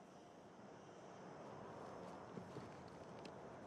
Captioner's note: quiet wind